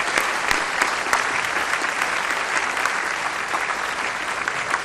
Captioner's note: applause